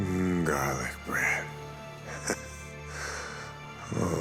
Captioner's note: chuckles